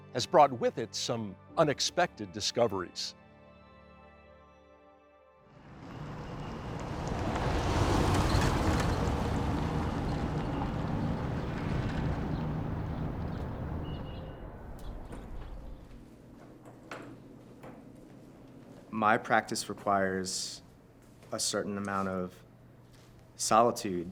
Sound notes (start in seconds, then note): 5.9 vehicle speeding; 11.0 wind rushing